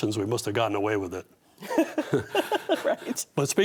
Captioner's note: laughing